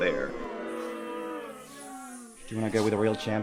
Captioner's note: audience boos